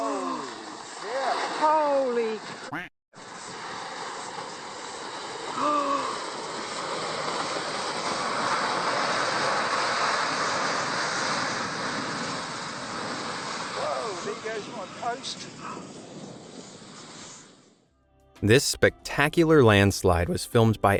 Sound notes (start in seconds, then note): 0.1 landslide rumbling; 3.2 landslide rumbling; 3.2 woman sighs